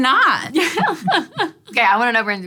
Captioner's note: laughter